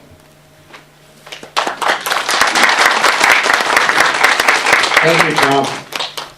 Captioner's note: applause